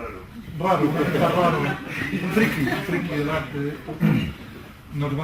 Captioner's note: laughter